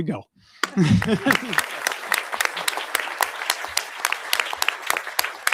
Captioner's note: audience applauding